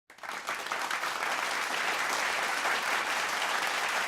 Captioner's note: audience applauding